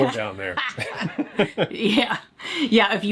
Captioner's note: both laughing